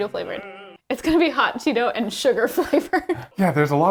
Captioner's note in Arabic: يضحك